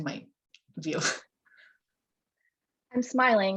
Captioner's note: laughs